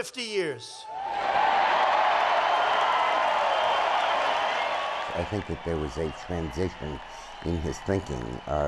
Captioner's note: cheers and Applause